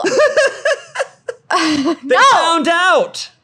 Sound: laughing

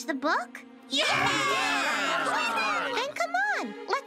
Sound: cheering

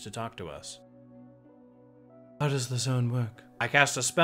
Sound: silence

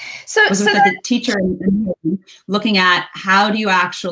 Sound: audio gets distorted

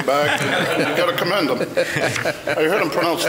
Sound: Frank laughs; laughs

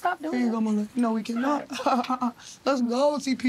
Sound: laughs

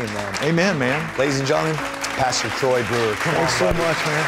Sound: applause

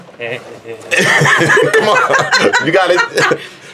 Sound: laughing

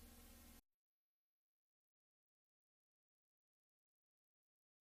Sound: silence

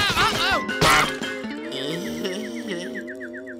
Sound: groaning

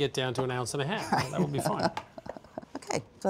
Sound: laughing

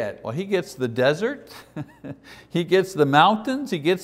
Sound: chuckles

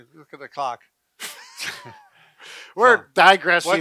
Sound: laughing

